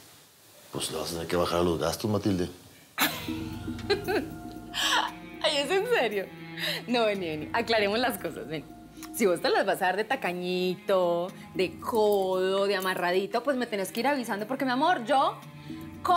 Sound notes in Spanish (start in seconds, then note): 5.3 carcajadas